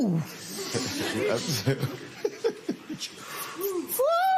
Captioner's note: laughter